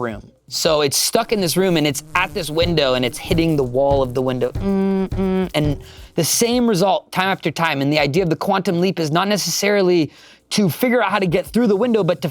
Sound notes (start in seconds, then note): 4.6 buzzes